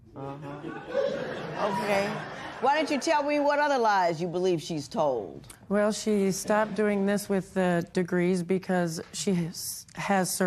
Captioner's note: laughter